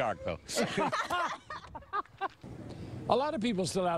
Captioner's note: laughter